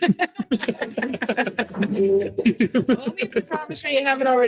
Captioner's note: group laughing